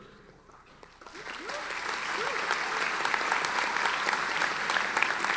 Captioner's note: audience applauding